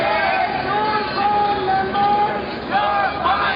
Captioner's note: voiceover